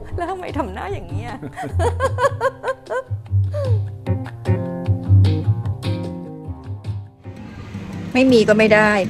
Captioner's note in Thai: เสียงหัวเราะ